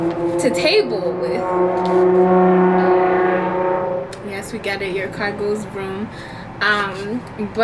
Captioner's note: loud car drives